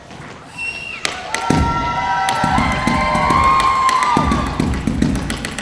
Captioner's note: audience cheering and applauding; drums banging